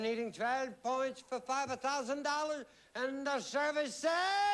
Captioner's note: swedish accent